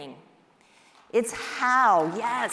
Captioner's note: applause